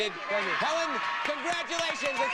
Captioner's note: audience applauding